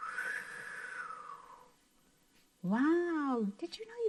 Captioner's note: makes air whooshing sound